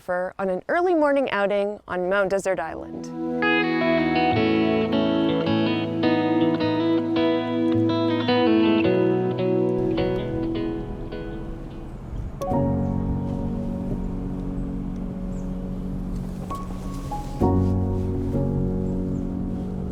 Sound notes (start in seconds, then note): 2.7 gentle music; 10.6 wind blowing; 10.8 birds chirping; 12.3 gentle music; 15.3 rustling